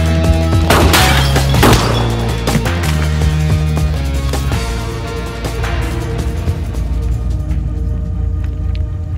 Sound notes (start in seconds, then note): 0.7 gunshot